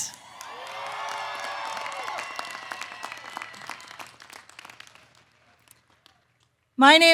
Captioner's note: applause